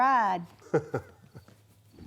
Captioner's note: laughing